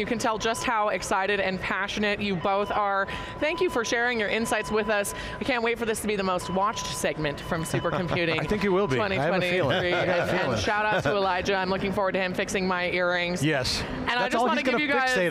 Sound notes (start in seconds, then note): 9.4 laughter